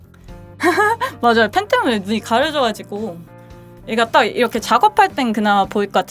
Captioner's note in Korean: 웃음